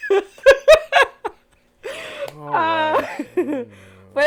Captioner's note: laughs